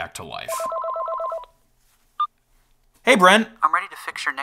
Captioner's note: phone ringing